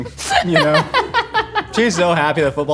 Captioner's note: laughing